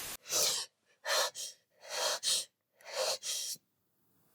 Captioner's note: pants sharply